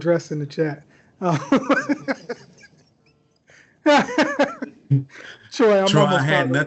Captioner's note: laughter